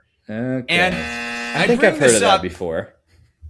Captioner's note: buzzer